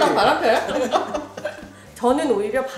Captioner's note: hahahahahaha